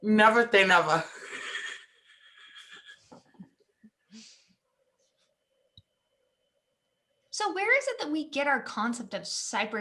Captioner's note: laughs